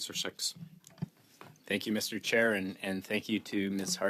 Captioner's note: speaking French